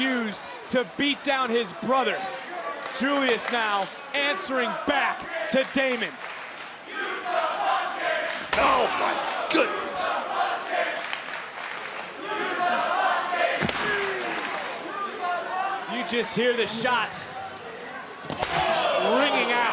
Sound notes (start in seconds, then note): 6.6 crowd chants "use the bucket"